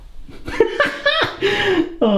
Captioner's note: laughing